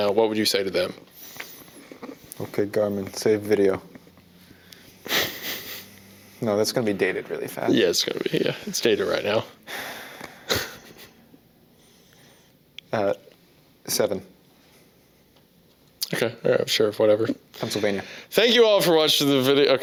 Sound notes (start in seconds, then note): 10.4 laughs